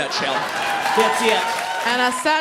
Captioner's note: audience cheering